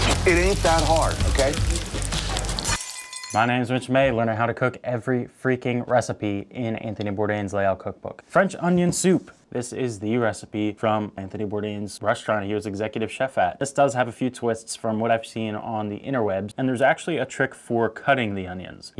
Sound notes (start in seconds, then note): 1.7 oil sizzling; 2.9 glass shatters